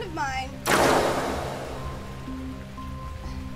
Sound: blasterfire

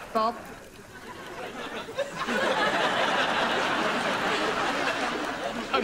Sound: laughs

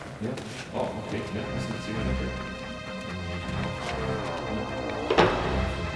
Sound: speaking in foreign language; eerie music

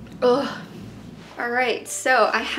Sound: moans

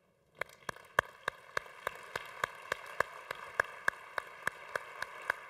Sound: congregation applauding

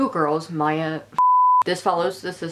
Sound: beeping

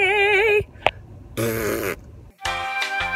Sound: blows raspberries; elevator music

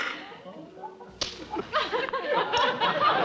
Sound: snapping

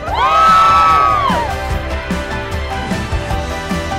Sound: crowd cheers

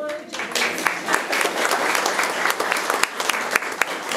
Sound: room applauds

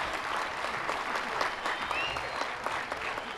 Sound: cheers and applause

